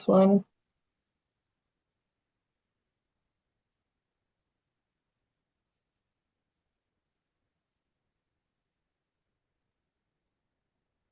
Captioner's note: pause